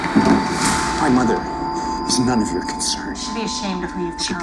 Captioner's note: none